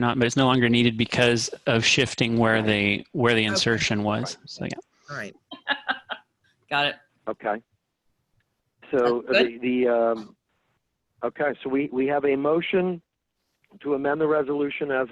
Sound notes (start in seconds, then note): 5.5 laughing